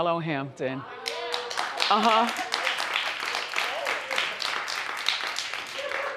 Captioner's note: audience applauds